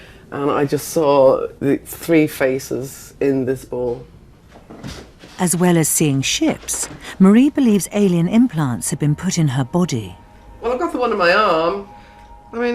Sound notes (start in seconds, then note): 5.5 voiceover